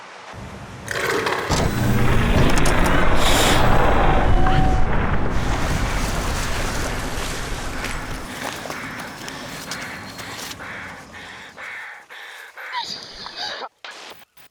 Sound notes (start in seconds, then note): 0.3 growling; 8.7 panting